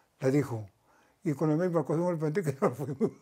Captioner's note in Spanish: ríe